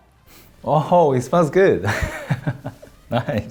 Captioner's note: laughs